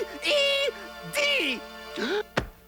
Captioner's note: gasps